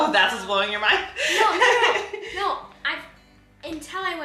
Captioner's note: laughs